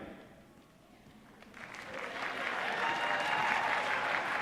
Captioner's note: applause